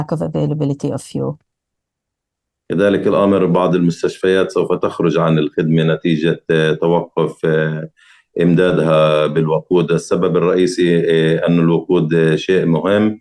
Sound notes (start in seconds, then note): 2.7 speaking arabic